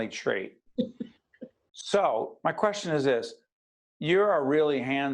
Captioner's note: laughing